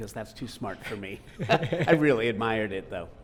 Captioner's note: both laughing